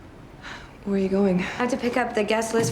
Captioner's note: sighs